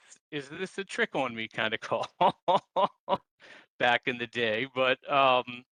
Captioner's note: laughs